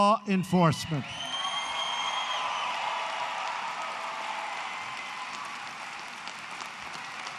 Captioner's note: applause